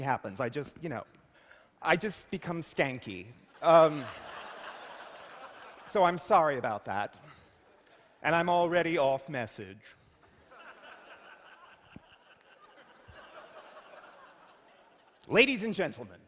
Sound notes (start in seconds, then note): 3.7 laughter; 10.2 laughter